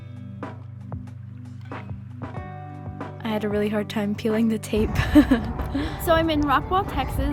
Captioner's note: laughs